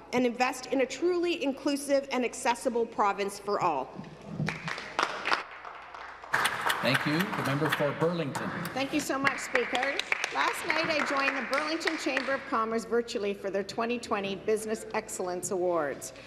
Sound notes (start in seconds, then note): 9.6 applause